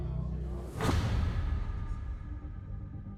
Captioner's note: slam